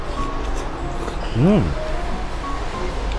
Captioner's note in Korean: 감탄